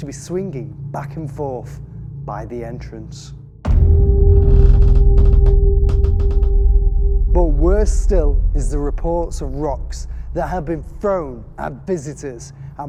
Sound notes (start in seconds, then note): 3.9 creaking; 4.7 eerie music